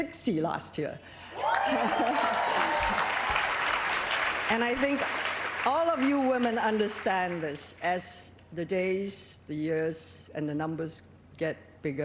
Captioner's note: laughter